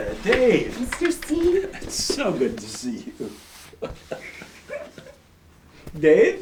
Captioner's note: laughs